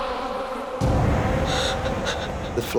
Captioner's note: speaking Spanish; gasping